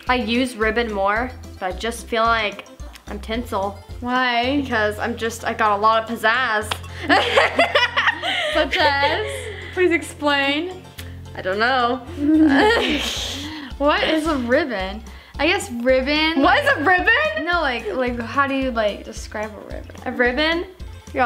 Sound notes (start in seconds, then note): 7.0 laughing together